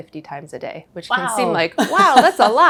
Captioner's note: laughing